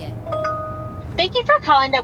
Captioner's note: electronic tone chiming